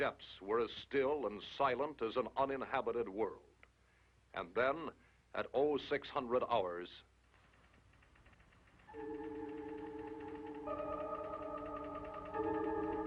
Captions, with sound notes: The Arctic depths were as still and silent as an uninhabited world. And then at 0600 hours - [Clicking]